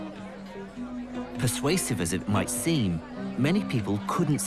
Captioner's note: voiceover